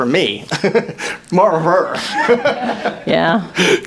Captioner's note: laughs